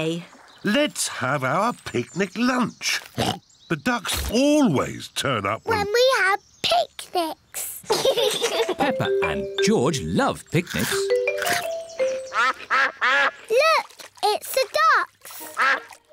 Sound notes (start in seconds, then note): 3.1 oinks; 7.8 both laugh; 12.2 quacking